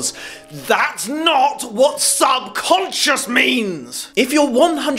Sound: yelling

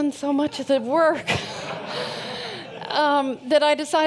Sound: audience laughs

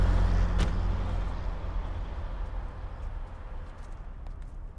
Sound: car door slams

